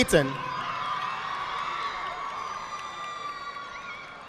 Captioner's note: audience applauding